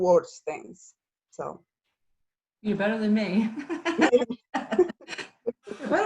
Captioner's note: laughs